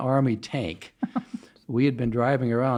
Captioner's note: laughs